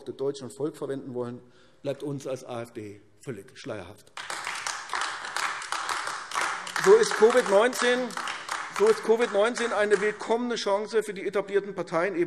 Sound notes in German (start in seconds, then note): 4.1 Beifall AfD